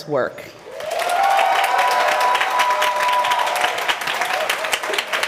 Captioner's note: applause